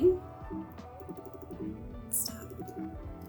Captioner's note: computer malfunction sounds